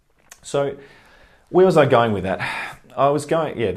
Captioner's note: sigh